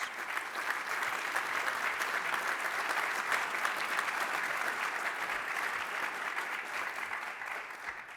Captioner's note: applause